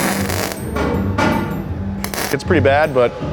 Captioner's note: weld zapping